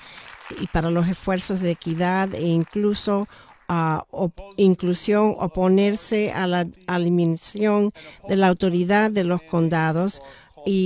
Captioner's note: applause